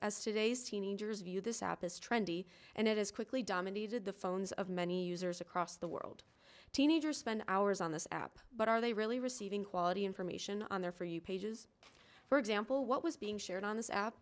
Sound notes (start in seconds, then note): none